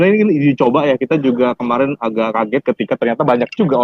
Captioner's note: speaking indonesian